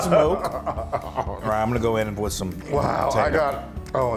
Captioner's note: laugh